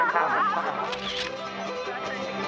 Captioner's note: sound: Camera Shutter